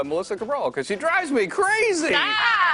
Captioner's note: laughter